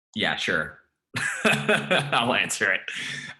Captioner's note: laughing